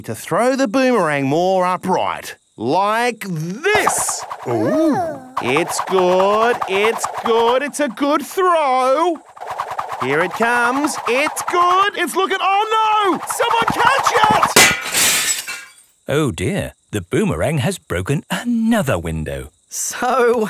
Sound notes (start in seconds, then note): 14.5 shatters